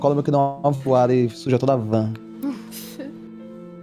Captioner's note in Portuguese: risos